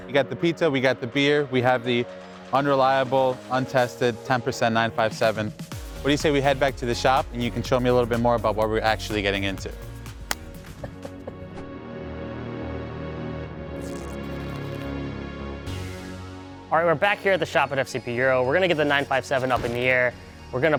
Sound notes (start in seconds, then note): 10.2 hands smacking; 10.7 laughing